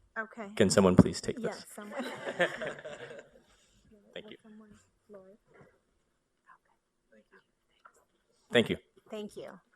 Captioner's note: laughter